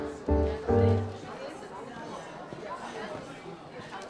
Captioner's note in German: Stimmengewirr